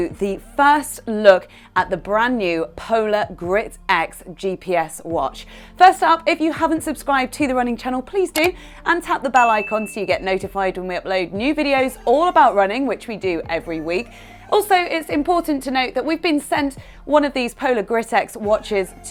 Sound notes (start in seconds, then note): 8.3 click; 9.4 ding